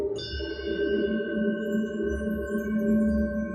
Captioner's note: chiming